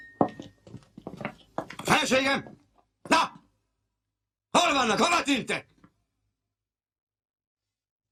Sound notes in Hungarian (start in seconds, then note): 1.9 ordít; 6.8 csend